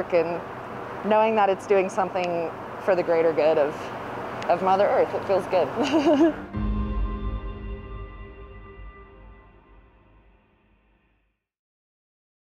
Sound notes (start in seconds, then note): 5.8 laughs